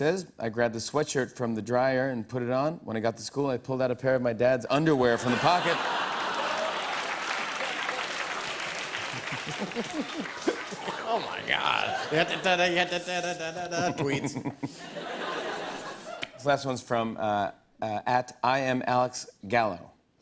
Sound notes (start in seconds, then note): 6.7 laughter and applause; 7.5 chuckles; 14.4 laughter